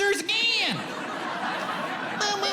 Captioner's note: audience laughs